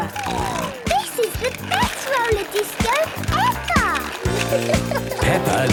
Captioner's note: snorting